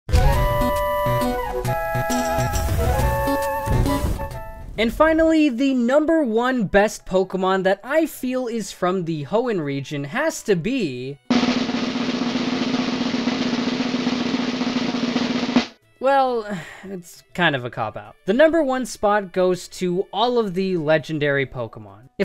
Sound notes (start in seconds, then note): 11.3 drumroll; 16.4 sigh